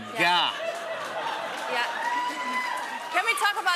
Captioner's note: laughter, cheers, applause